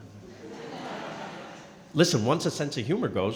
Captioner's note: crowd laughing